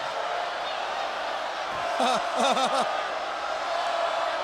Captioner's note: crowd booing